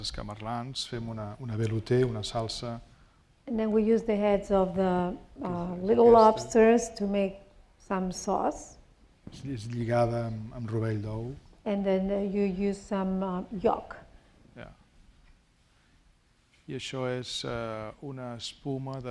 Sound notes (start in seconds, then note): 10.0 speaking spanish; 17.1 speaking spanish